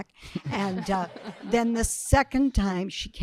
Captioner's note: audience laughing